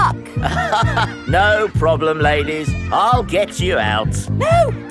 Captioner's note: chuckles